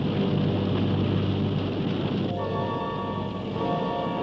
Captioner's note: fire roars; suspenseful music